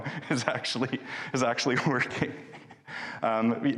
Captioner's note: laughing